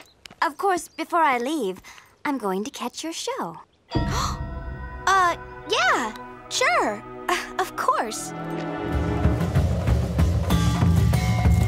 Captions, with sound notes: Of course, before I leave, I'm going to catch your show. [she gasps] Uh… Yeah, sure! Of course… [upbeat percussive music]